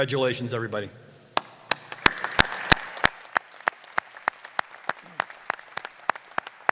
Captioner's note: applause